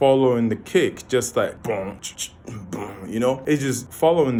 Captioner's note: beatboxing